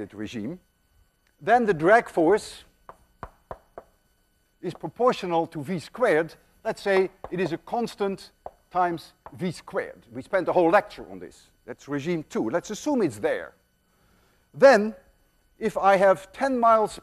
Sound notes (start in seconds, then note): none